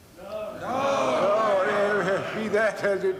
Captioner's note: loud calls